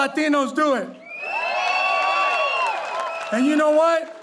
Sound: audience cheering

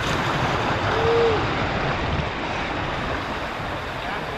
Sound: waves crashing

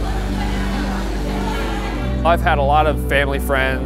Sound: shaving

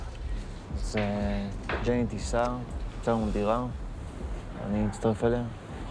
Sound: speaks in foreign language

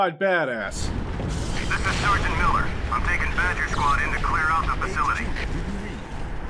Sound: MILLER over the radio

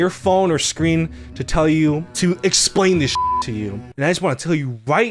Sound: beep

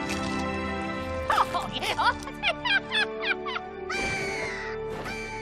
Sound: laughing

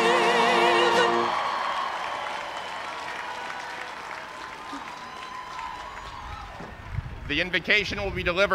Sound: cheers and applause

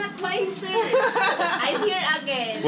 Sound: laughter

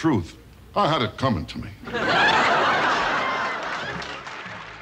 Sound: laughing

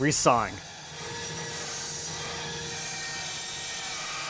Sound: saw buzzing

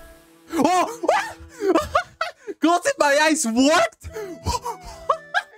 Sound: maniacal laughter; keeps laughing

